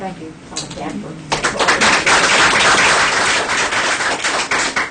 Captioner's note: applause